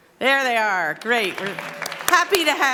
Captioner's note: applause